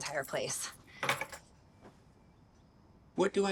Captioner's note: key clinks